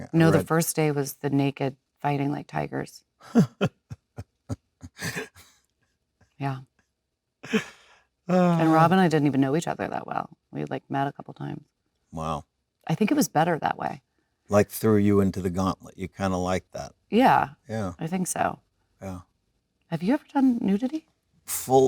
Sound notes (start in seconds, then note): 4.8 Leonardo giggling